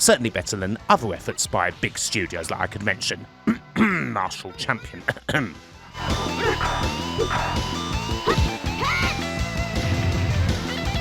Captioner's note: cough